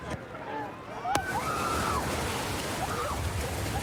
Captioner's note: excited screaming